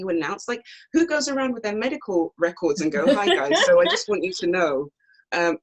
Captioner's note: laughs